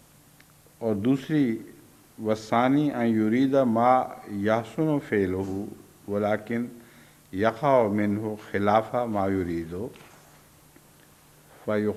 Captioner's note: Arabic